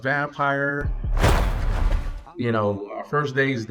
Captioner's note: creature thudding